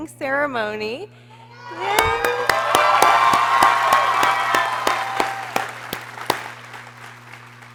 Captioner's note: people cheering